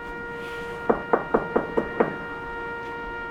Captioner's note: knocks